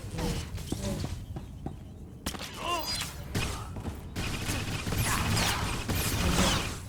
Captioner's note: gunfire